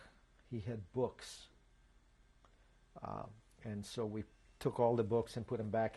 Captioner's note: pauses for 3 seconds